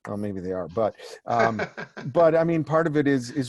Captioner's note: laughing